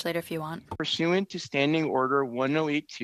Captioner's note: speaking FRENCH